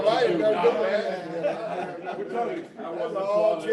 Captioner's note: laughter